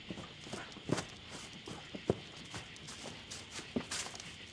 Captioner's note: footsteps